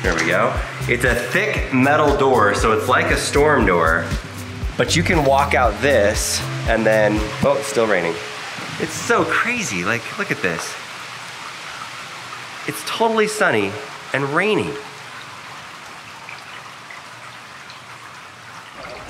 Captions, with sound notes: Here we go. It's a thick metal door. So it's like a storm door but you can walk out this and then, oh, it's still raining. It's so crazy. Like, look at this. (rain swishing) It's totally sunny and rainy.